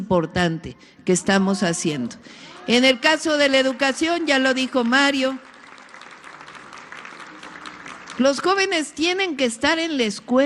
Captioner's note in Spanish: aplausos